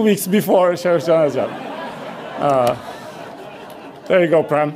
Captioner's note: audience laughs